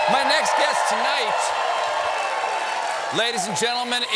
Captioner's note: cheers and applause